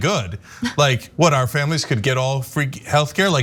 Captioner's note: laugh